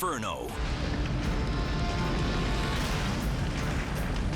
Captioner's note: fire roaring; dramatic music